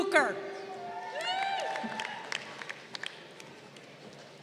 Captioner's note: crowd cheering